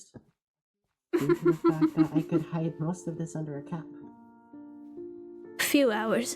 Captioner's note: ROSE laughs